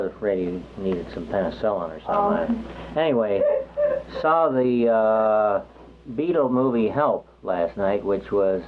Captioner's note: laughs